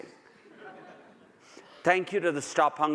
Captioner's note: audience laughs